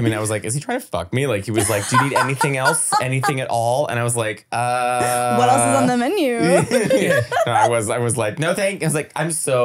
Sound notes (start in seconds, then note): 1.6 laughing; 6.4 laughing